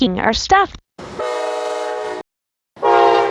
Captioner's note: horn